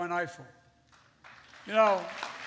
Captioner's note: applause